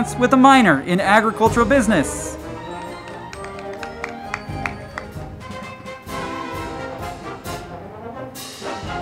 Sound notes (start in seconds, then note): 2.5 crowd clapping; 2.8 band music